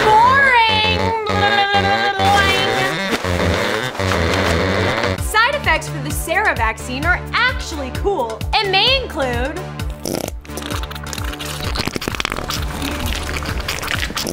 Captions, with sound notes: Boring! (mocking) Side effects for the Sarah vaccine are actually cool and may include... (squelching sound)